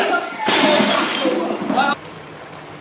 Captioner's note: loud glass breaking